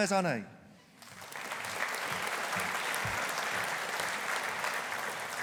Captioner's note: audience applauding